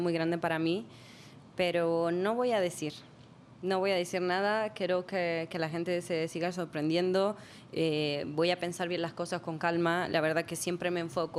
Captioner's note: speaking spanish